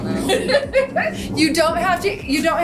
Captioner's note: laughing